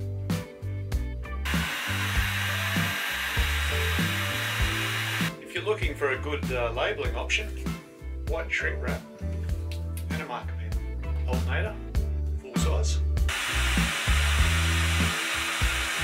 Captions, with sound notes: (heat gone whirs) If you're looking for a good labeling option, white shrink wrap, and a marker pen. Alternator, full size.